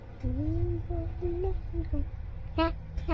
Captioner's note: humming